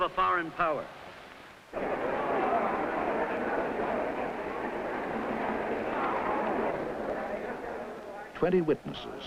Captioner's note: indistinct background chatter